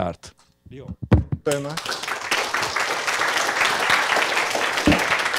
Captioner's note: applause